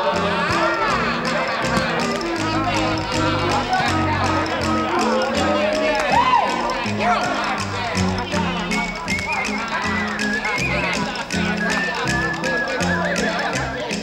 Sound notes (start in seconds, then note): 0.1 players chatter; 8.4 whistling